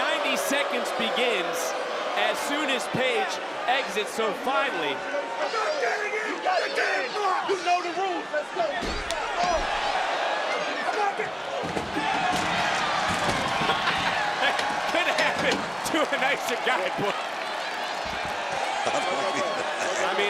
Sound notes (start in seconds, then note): 9.6 crowd cheers; 11.6 door clatters; 18.6 Booker chuckles; 18.6 crowd cheers